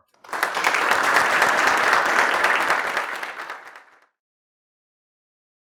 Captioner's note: audience applauding